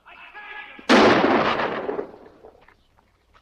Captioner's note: gun fires